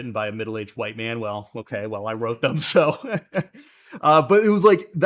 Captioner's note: laughs